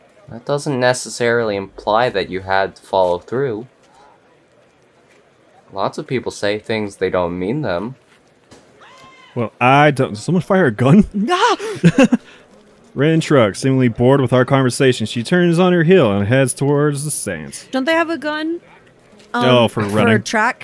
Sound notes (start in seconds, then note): 8.3 bang; 8.8 edited in scream; 11.5 chuckles